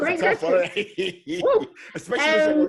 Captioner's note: laughing